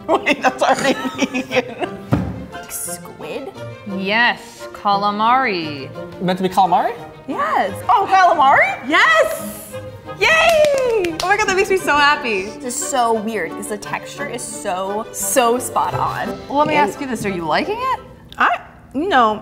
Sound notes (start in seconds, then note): 0.0 laughs; 2.2 laughing